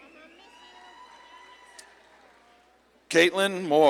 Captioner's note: audience claps and cheers